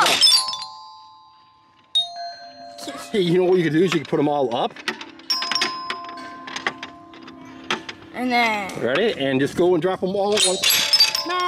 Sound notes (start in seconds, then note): 0.1 bells chime; 1.9 bell chimes